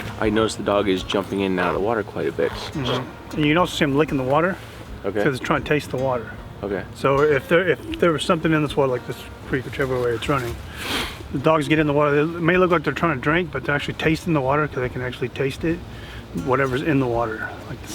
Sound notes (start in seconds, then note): 0.0 dog splashing in the water; 10.6 sniffing